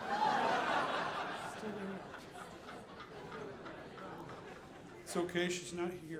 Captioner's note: audience laughing